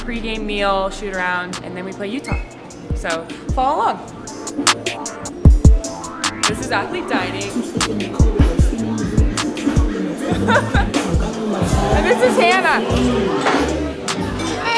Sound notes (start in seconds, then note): 4.8 upbeat music; 9.5 laughs